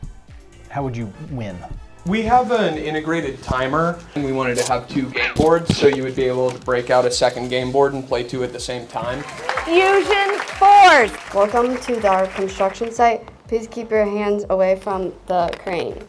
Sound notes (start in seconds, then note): 9.2 crowd clapping